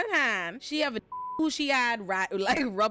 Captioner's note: beep